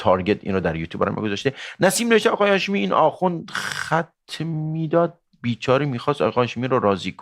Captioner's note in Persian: صدای خرناس